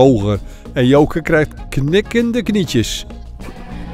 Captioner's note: voiceover